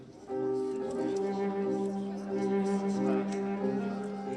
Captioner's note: indistinct chatter